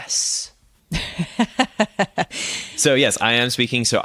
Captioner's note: laughs